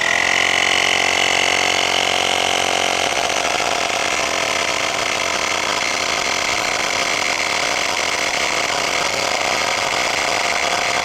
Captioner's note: motor whirring